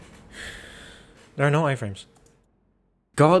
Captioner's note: sighs in realization